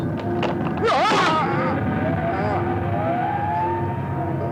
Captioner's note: Stinnel groans; eerie music continues